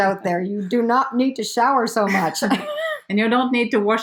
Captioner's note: laughs